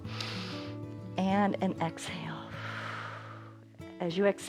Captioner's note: inhales; exhales